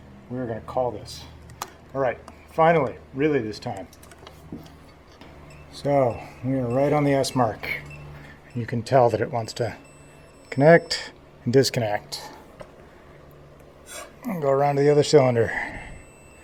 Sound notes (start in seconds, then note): 5.7 intermittent beeping; 9.9 beeping increases; 11.0 beeping stops; 16.2 beeping resumes